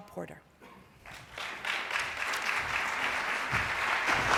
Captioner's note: applause